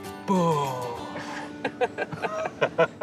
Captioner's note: laughs